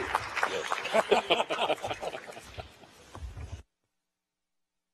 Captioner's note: laughter